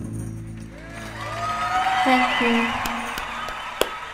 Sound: audience cheering; hands clapping

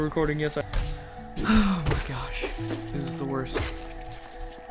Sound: sigh

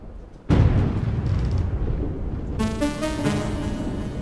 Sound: lightning cracks; tense music

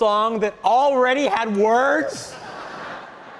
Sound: audience laughing

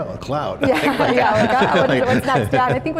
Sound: all laugh

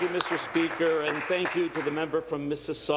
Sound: applause

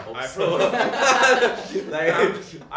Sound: team laughs; laughing

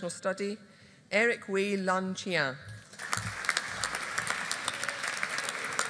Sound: audience applauding

